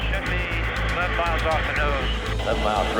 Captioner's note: man On Radio